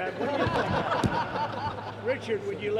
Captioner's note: laughter